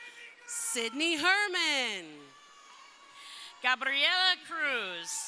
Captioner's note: crowd cheering